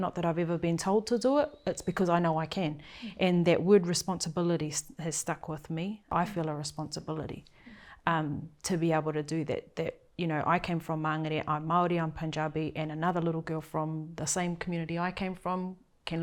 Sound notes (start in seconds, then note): none